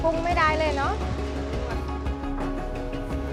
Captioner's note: speaking Thai; lady speaking Thai